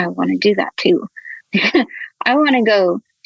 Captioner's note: laughs